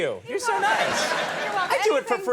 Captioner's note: audience laughing